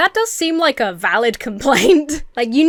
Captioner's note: chuckles